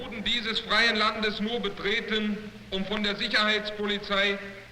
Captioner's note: fragment of speech in German